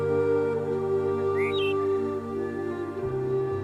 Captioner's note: birds singing